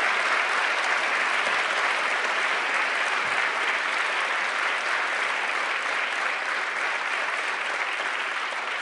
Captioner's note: applause; applause